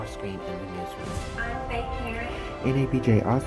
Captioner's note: background noise from television screen